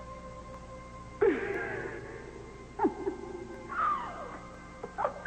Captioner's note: Reva laughing